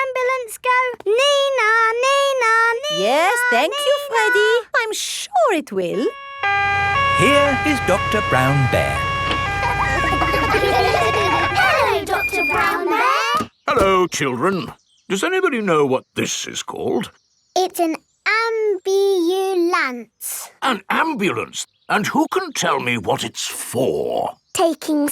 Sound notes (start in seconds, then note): 6.0 siren wailing; 10.0 kids laughing